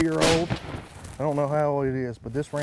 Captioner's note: gunshot